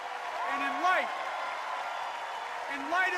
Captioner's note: enduring cheers and applause